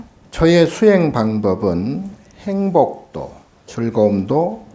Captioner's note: speaking Korean